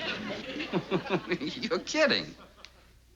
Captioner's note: laughs